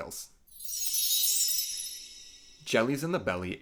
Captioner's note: chime sound